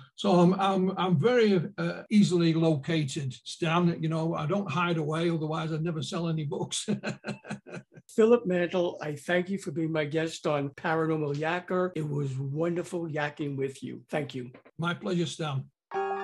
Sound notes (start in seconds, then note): 6.8 laughing; 15.9 eerie music